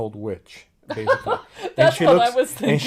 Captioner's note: laughs